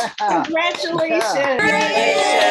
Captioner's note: applause; cheering and applause